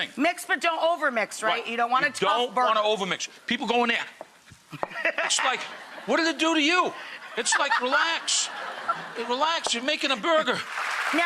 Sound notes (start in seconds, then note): 4.8 audience laughs